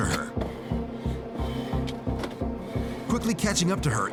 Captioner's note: breathing heavily